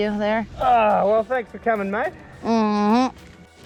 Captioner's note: groans